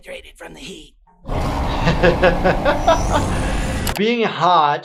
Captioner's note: monster roaring, laughing